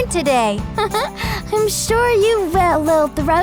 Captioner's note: laughs